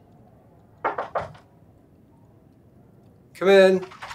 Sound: knocking

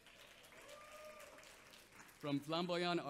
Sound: audience applauds

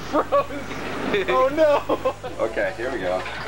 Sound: laughs

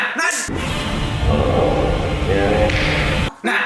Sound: Godzilla Roar

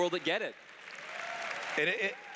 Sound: cheers

